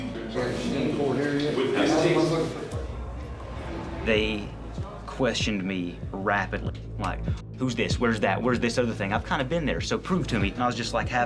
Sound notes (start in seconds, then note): none